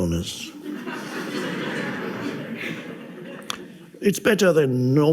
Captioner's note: audience laughs